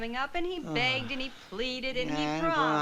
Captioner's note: sighs